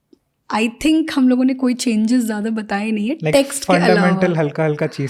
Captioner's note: speaks in Hindi